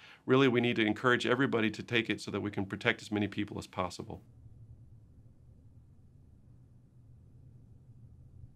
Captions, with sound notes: really, we need to encourage everybody to take it so that we can protect as many people as possible. [silence]